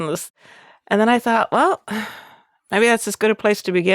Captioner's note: sighs